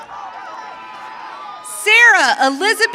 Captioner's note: audience cheering